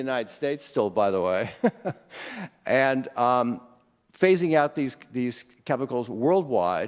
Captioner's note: chuckles